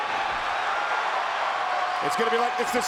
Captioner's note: audience cheering